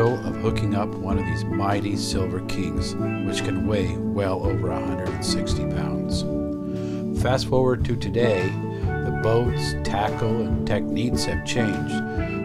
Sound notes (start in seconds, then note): none